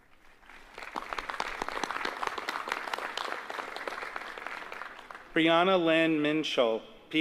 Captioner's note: applause